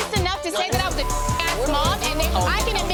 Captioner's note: beeping